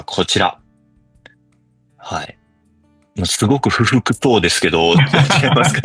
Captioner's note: laughs